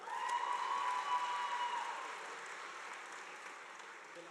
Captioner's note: crowd cheering